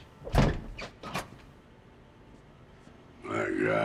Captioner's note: safe creaking